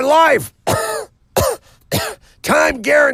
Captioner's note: coughs